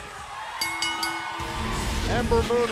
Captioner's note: bell ringing